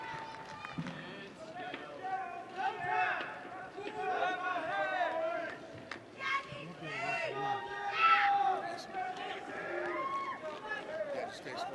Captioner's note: cheers and applause